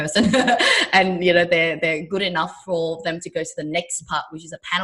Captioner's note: laughs